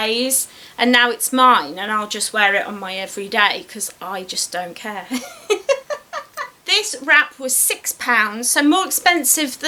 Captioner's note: laughs